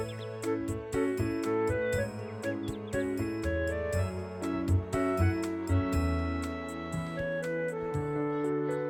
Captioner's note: kids chattering